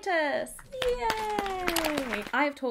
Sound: clapping

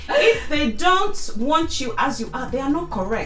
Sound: laughs

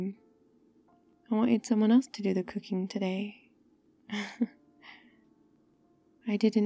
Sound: laughs

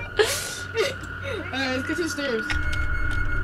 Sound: laughs

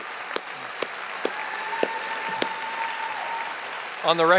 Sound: audience applauding and cheering

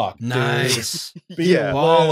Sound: laughter

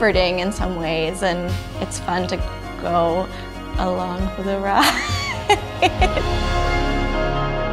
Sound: laughs

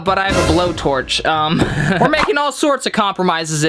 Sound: chuckles

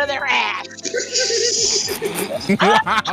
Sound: boo; laughter

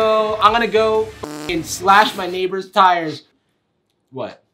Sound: beep

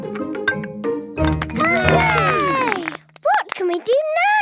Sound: all cheer

